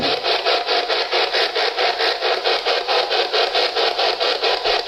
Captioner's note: loud static